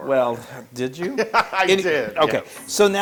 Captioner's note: laugh